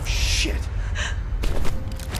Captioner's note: crying